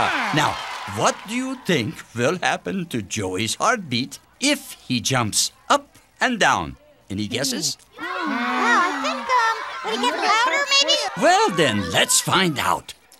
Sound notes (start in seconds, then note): 6.8 children chattering